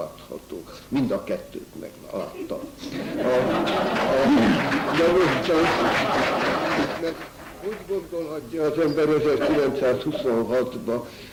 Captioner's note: laughter